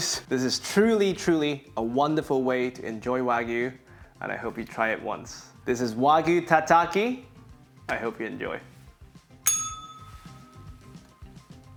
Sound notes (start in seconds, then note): 9.4 bell rings